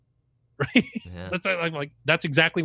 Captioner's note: laughs